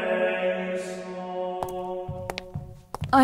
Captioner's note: footsteps